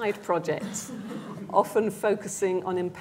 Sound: laughter

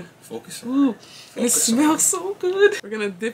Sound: sniffs

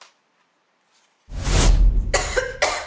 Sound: dust whooshes; Mary coughs

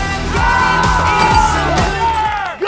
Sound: cheering

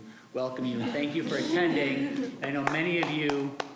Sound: scattered applause

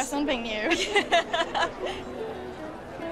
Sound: both laugh

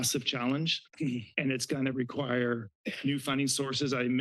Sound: clears throat

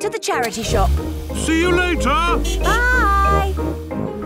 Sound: honking

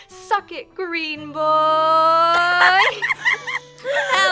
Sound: the group bursts out laughing

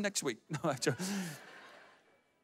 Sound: audience laughs

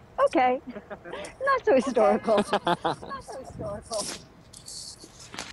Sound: both laugh

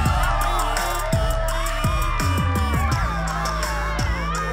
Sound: crowd cheers; upbeat music

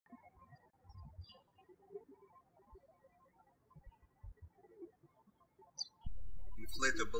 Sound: birds chirping

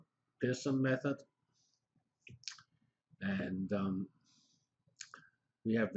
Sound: pause

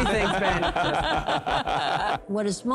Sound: laughter

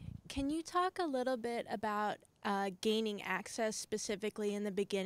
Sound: voiceover

